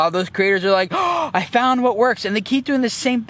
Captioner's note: gasps